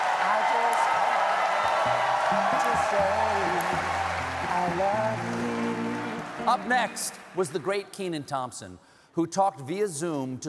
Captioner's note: cheering